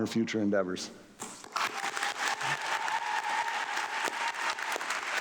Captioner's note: audience clapping